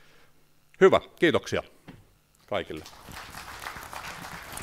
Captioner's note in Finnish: aplodit